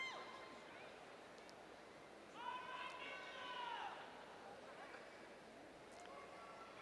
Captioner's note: cheers